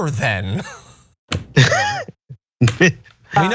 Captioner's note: laugh